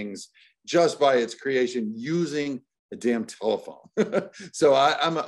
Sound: laughs

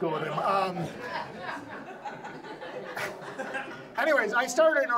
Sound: audience laughs

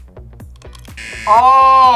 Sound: hot dog snaps; buzzer

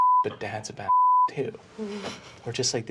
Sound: beeping

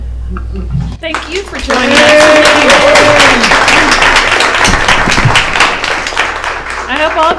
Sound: applause

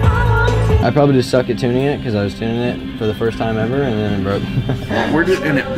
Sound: laughs

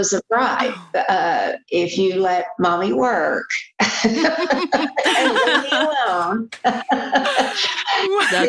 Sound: laughter

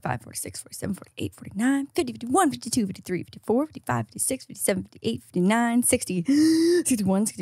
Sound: inhales

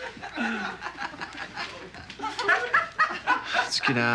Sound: guys giggling

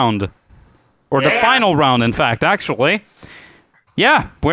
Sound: multiple "yeahs"

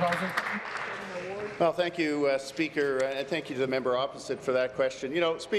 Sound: applause

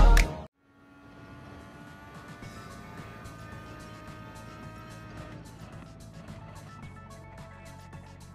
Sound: MP4/4 '88 engine sound

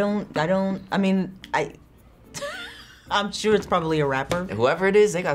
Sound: laughs

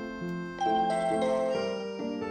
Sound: door bell rings

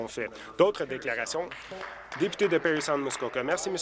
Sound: some Applause

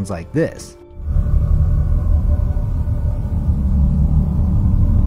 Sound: eerie whooshing

